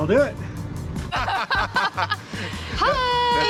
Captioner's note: laughter